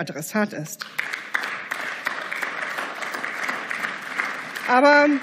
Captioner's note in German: Beifall